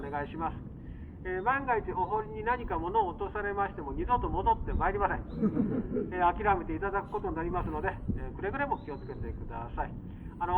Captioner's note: laughs